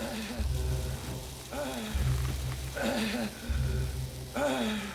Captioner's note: Bill breathing heavily